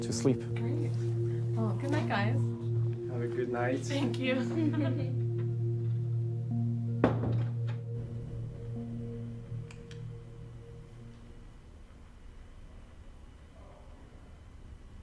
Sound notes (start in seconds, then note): 7.1 door closes; 9.6 light switch clicks off